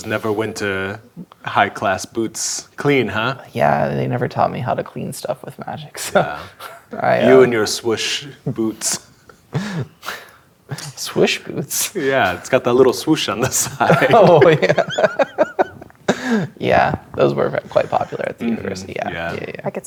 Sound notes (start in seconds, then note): 9.5 chuckling; 13.4 laughing